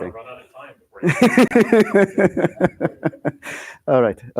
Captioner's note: laughter